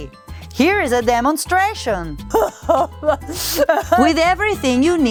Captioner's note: crying sounds